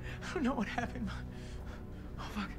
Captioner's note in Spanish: Respirando profundamente